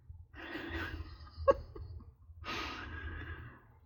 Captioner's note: laughs